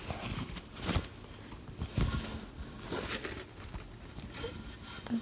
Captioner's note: fabric rustling against metal